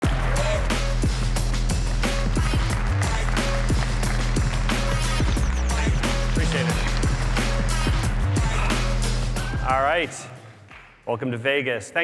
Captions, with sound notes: (applause) (upbeat music) Appreciate it. (upbeat music) Alright, welcome to Vegas.